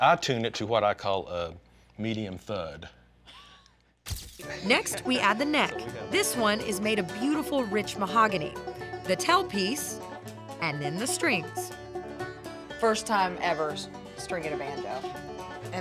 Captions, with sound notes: I TUNE IT TO WHAT I CALL, A MEDIUM THUD. [LAUGHS] JILL WAGNER, V/O: NEXT WE ADD THE NECK. THIS ONE IS MADE OF BEAUTIFUL, RICH MAHOGANY. THE TAIL PIECE AND THEN THE STRINGS. FIRST TIME EVER, STRINGING A BANJO.